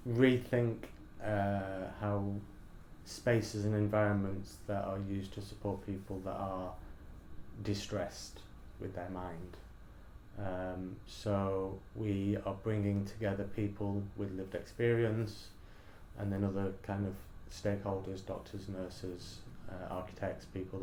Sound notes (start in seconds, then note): none